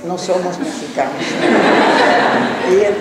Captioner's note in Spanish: laughs